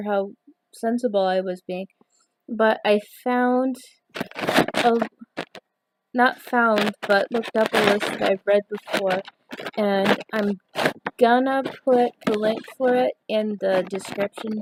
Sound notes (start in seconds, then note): 4.1 garbled noise- sounds like microphone being touched